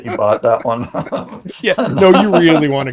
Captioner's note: laughs